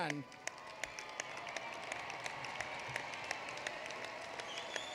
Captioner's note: applause